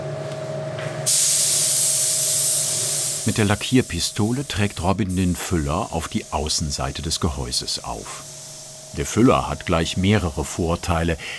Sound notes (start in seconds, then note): 0.9 hissing